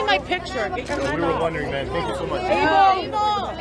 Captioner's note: crowd Talking